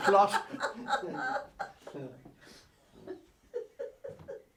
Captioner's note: laughing